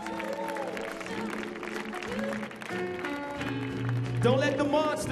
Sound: audience applauding

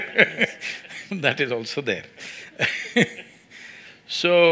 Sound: laughter; laughs

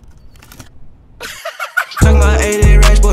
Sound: laughs

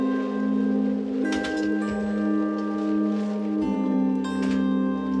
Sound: oxygen tank clattering

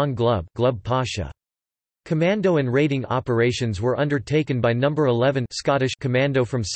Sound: Scottish

